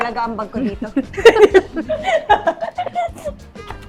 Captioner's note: laughs